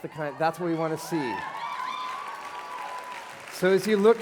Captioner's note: cheering